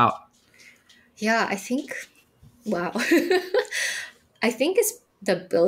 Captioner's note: chuckling